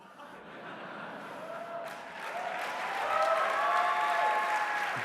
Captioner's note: applause